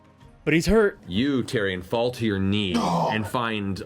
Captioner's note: pained grunt